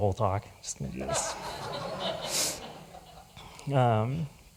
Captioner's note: laughter